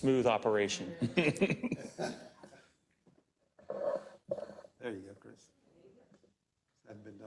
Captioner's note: laugh